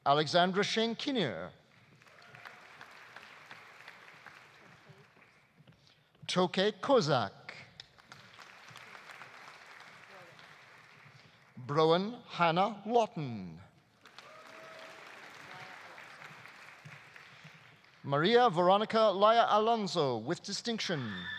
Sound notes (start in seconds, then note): 1.7 audience applauding; 7.9 audience applauding; 13.9 audience applauding; 14.1 audience cheering; 20.9 audience cheering; 21.1 audience applauding